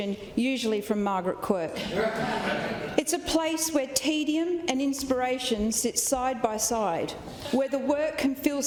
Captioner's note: laughter